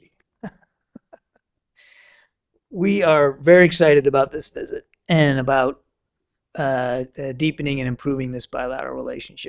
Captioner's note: laughter